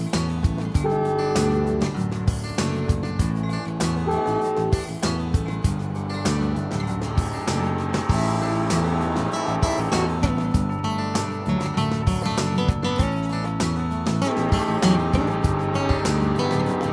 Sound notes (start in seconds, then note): 9.7 light upbeat music; 9.7 train whistling